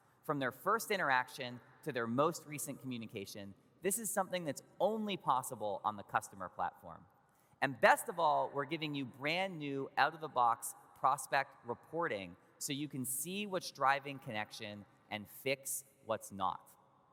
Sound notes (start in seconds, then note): none